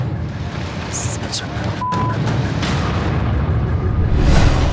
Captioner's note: beep